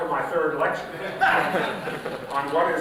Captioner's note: laughter